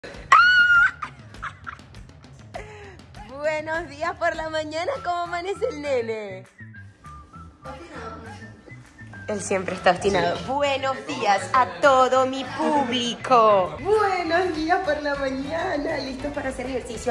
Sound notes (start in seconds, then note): 0.2 screaming